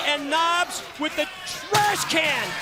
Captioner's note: crowd cheering; crowd chatter